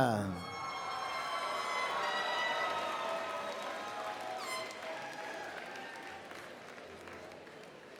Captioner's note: applause and Cheering